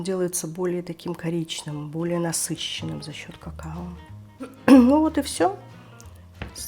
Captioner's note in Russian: откашливается